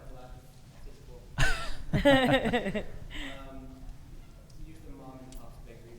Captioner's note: both laughing